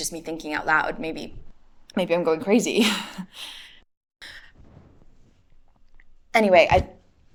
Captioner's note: chuckles nervously